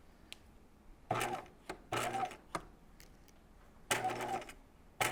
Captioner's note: sewing machine whirring